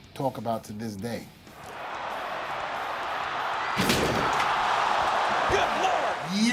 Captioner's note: applause